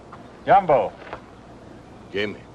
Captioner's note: speaking foreign language